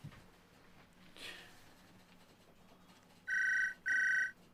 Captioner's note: scoffs; phone ringing